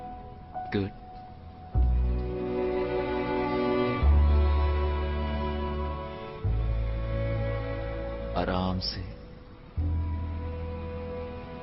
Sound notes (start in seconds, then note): none